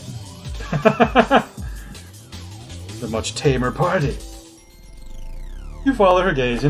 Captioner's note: laughs